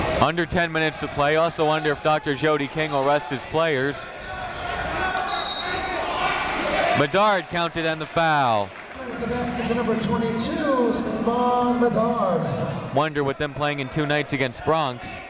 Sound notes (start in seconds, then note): 5.2 whistle